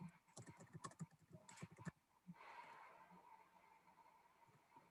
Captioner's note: keyboard clanking